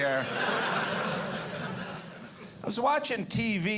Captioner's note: audience laughing